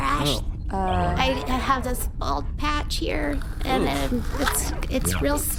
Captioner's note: sound of something peeling back